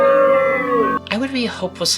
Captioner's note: audience booing